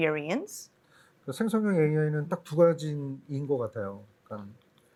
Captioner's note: speaking korean